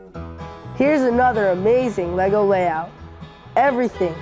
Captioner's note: voiceover